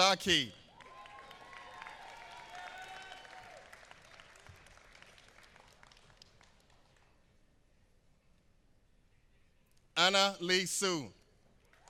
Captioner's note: applause; applause